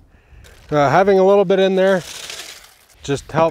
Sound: concrete mix pouring in

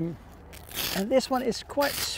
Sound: velcro unwraps

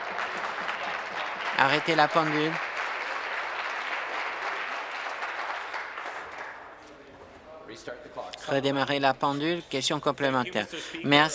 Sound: applause

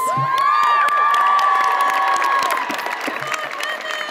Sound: audience cheers

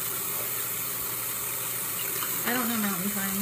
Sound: faucet running

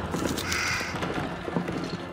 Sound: cawing

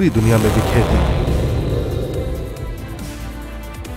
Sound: non-english speech

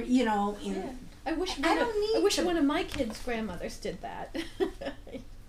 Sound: voiceover

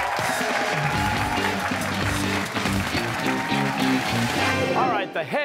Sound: cheers and applause

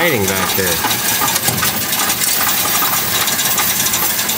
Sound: coins rattling

